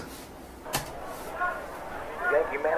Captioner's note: group chattering